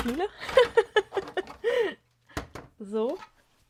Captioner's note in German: gelächter